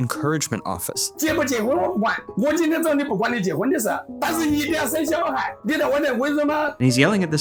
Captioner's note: person 1 speaking in foreign language